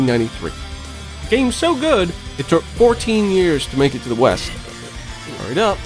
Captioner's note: snail grunts and wheezes